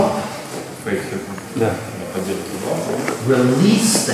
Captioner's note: speaking in a foreign language